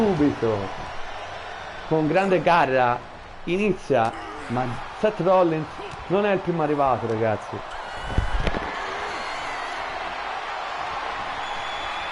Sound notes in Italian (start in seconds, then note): 8.0 Applauso